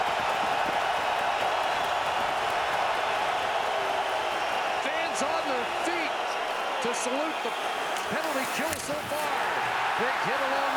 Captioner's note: cheering